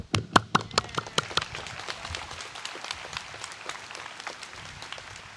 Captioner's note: audience applauds